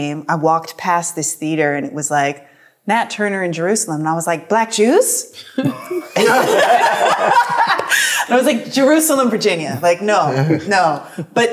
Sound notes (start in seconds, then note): 5.6 everyone laughs